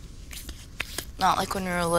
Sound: hands slapping

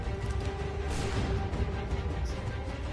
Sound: gunshot

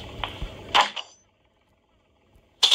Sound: bang, clunk

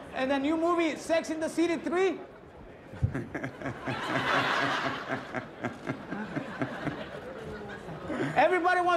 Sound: laughter

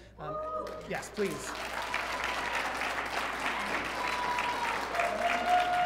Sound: audience clapping

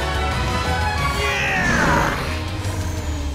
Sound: grunting

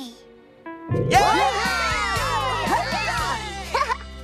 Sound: cheering

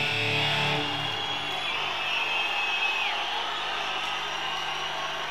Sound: audience cheering

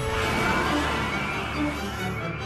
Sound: elevator bell; screaming

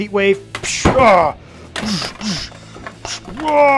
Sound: grunting

